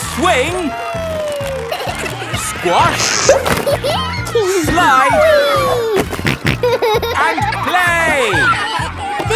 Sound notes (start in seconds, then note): 3.5 giggles; 5.8 snorting